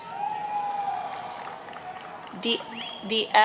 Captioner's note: applauding